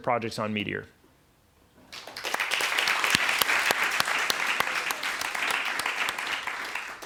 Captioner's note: applause